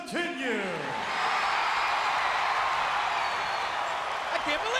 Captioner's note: crowd cheers